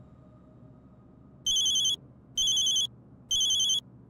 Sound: phone ringing

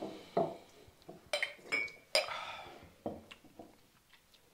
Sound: glasses clanging

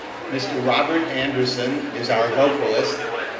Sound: none

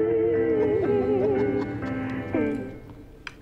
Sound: laughing

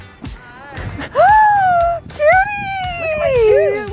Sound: squeals

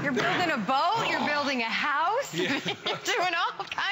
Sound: laughter

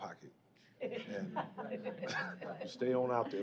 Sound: laughter

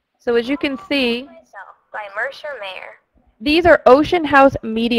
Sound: voiceover

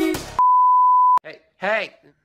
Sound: TV Color Bars Sound Effect

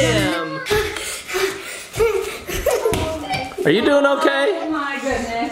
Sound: pants

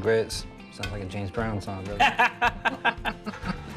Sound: laughing

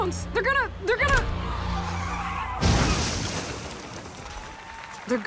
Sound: applause; tires screech and crash

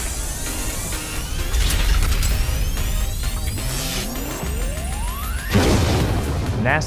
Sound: sound Effects

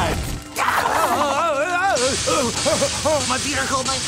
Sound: groaning

